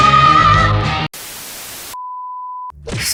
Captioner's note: static